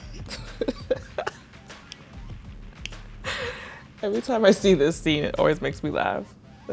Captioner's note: laughing